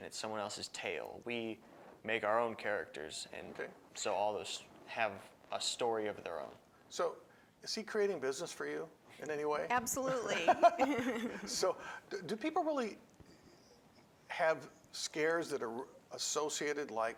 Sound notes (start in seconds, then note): 10.0 laughs